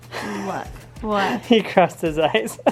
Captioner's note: husband laughs